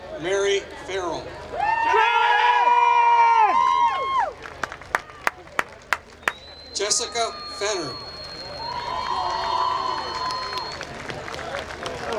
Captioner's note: applause